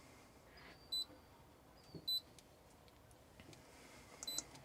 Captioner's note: beeping